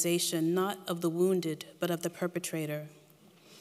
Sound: none

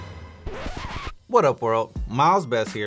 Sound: record scratches

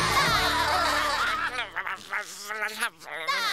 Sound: laughing; grumbling; laughing

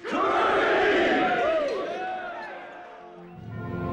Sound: all cheering

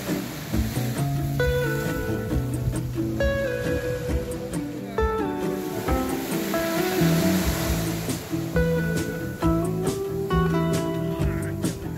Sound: wave sound

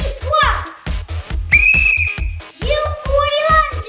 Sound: blowing a whistle

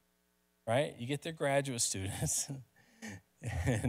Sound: laughs

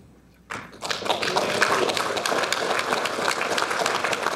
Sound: audience applauding

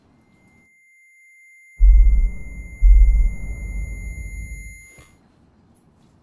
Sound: piercing noise

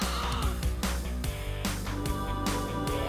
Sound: gasps

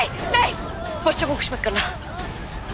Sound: lightning

